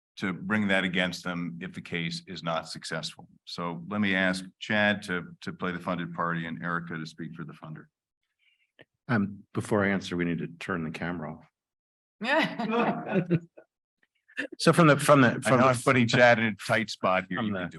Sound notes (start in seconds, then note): 12.4 panelists chuckle; 17.4 chuckles